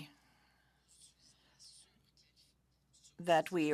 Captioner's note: speaking French